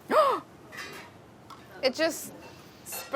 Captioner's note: gasps